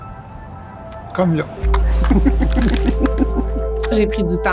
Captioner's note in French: rires